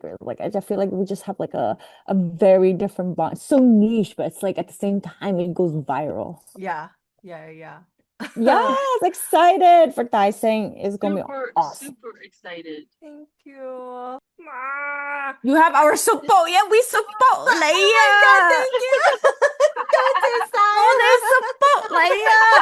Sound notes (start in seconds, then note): 14.5 meow of discomfort from being praised; 22.4 laughter